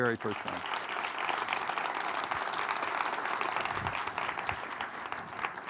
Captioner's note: audience applauding